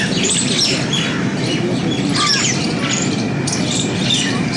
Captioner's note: birds chirping